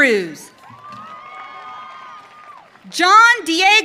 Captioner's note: audience cheering